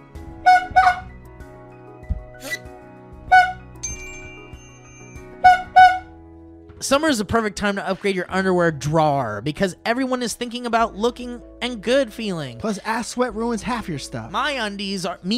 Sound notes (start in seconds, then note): 0.4 honk honk; 3.2 honk; 3.8 ding; 5.4 honk honk